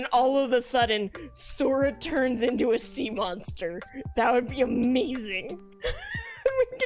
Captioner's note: laughs